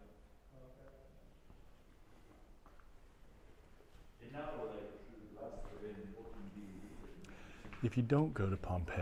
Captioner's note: speaking foreign language